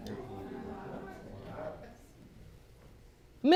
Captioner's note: courtroom murmuring